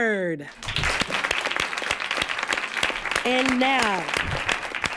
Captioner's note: applause